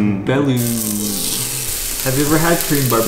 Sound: sizzling

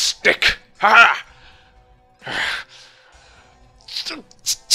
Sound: lunging noises

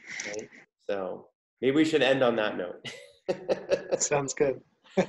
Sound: laughs

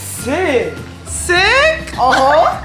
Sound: giggles

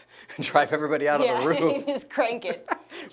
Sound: laughs

